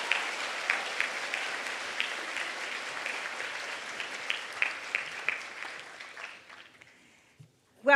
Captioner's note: applause